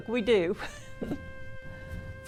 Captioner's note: laughs